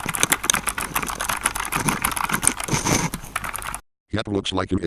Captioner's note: keyBoard Sounds